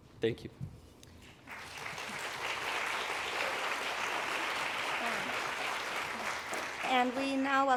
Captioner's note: applause